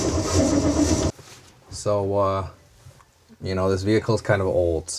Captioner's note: engine noise